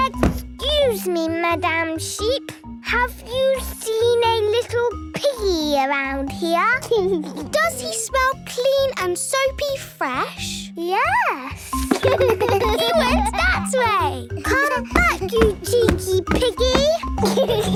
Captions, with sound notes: Excuse me, Madam Sheep. Have you seen a little piggy around here? - Does he smell clean and soapy fresh? - Yes. (giggles) - He went that way! - Come back, you cheeky piggy!